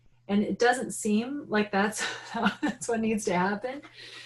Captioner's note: laughing